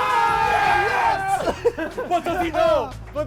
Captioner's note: cheering